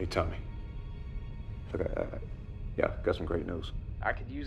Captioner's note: stutters